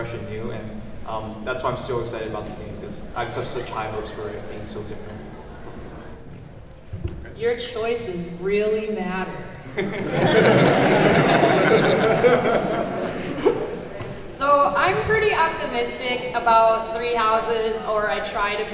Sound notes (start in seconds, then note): 8.0 sarcastically; 9.6 laughing